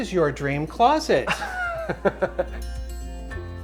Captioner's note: laughs; gentle music